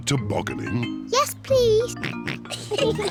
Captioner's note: snorts; both giggle; oinks